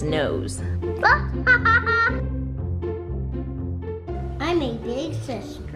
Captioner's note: light music; laughing